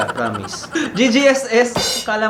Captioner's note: laughs